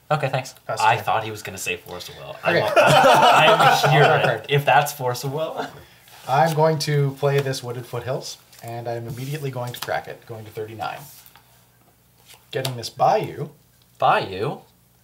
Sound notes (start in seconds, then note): 2.4 all laugh